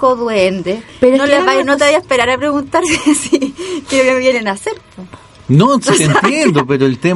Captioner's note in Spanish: risas